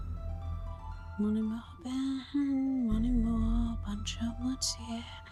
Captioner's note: dramatic music; Caroline humming